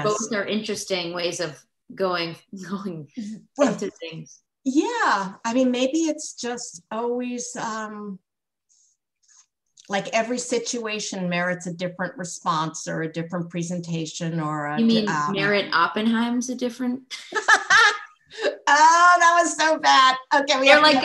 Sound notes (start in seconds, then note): 17.1 laughter